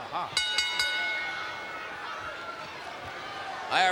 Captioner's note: bell rings